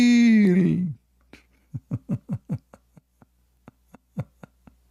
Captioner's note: Ketawa